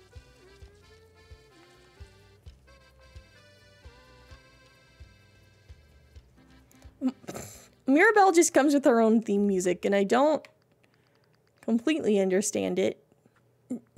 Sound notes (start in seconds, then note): 7.0 snorts